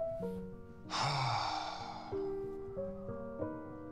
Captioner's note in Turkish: Nefes sesi